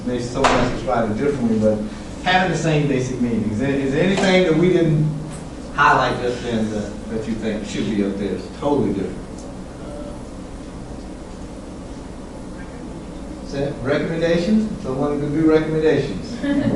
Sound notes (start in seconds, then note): 13.3 faint speaking by student